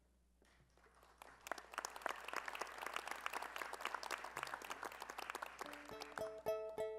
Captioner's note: applause